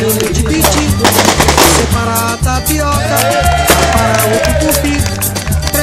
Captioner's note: fireworks